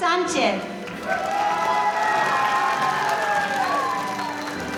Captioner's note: audience cheering